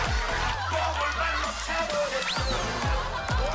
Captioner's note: laughter